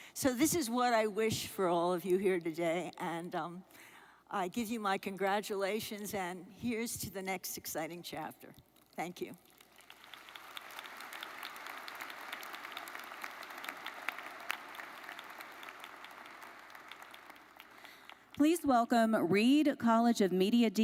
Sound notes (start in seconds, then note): 10.2 audience applauds